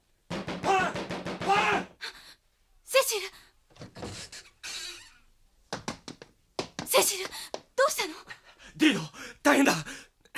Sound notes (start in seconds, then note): 0.3 SFX: knocking on the door; 3.8 SFX: door opens, followed by footsteps